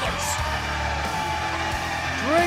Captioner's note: cheers and applause